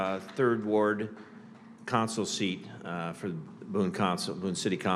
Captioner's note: applause